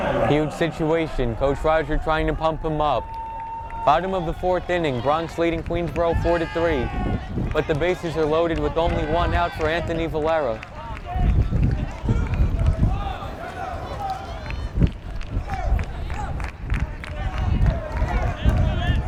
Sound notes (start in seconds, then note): 14.3 fans clapping and yelling